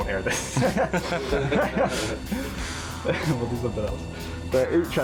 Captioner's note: men laughing